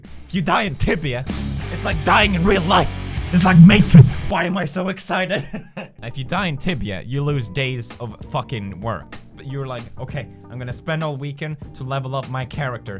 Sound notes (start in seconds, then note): 3.4 loud pewds voice